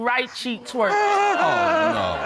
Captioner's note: audience exclaims